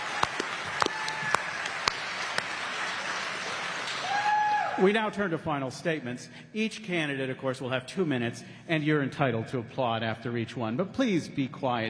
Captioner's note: applause